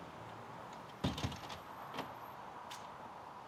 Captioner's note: door banging shut